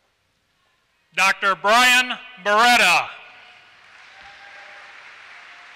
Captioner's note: applause